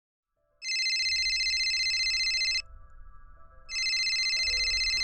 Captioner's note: cell phone ringing